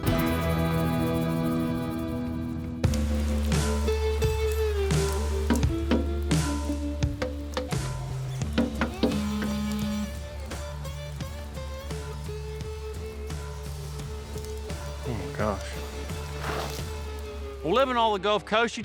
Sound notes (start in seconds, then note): 3.5 rain falling; 6.4 thumping sounds; 9.4 cell phone vibrates